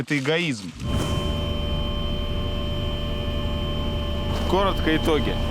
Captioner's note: humming noise